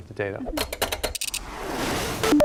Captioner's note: clanking